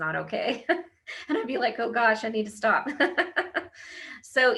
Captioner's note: laughs